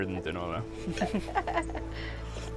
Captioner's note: laughs